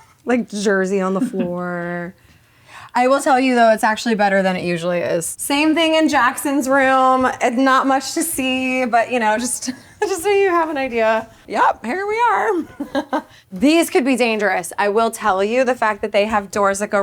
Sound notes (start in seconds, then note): 1.2 director chuckling; 9.8 chuckles; 12.6 chuckles